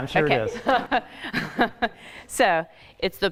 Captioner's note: laughing